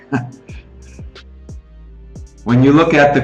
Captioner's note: chuckling